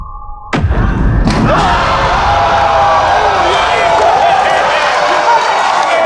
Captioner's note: spectators applauding